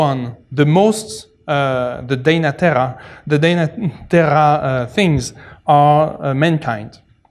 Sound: non-english

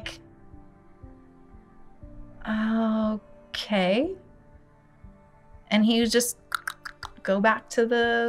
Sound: makes clicking noise

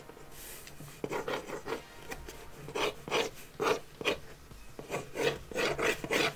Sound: pencil scratching on the box

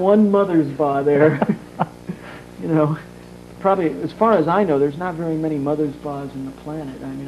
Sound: laughs

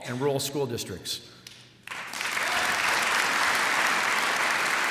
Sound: applause

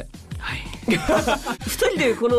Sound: laughs

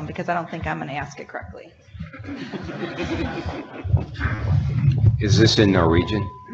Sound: audience laughing

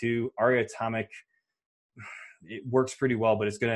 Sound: sighs

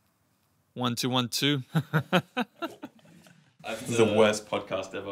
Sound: laughs

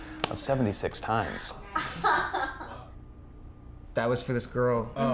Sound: teens taughing

